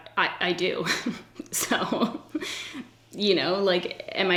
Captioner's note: laughs